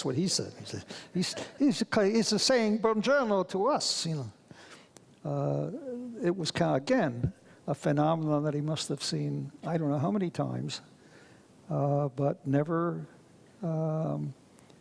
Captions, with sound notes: That's what he said. (audience laughs) It's saying (speaks foreign language) to us! It was kind of, again, a phenomenon that he must have seen I don't know how many times, but never